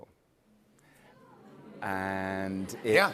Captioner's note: audience oohs